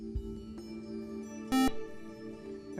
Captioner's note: buzzer